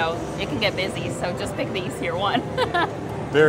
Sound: laughs

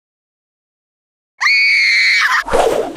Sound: girl Scream

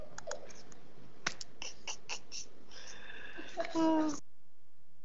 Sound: people laughing

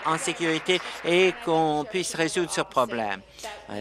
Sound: applause

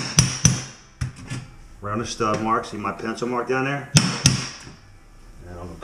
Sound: hammers

